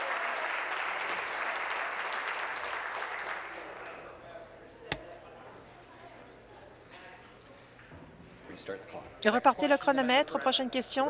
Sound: applause

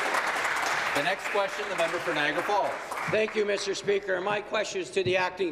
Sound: applause

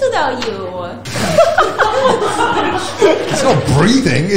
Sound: group laughs

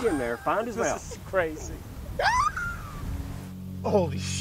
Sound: wheeze

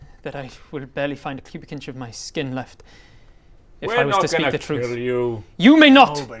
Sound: none

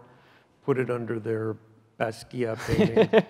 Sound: laughs loudly

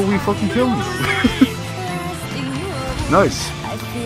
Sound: laughs

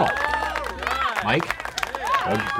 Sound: cheering

